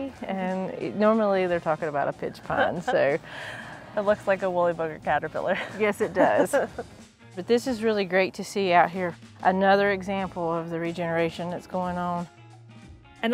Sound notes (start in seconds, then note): 6.0 host laughs